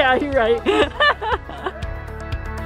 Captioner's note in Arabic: يضحك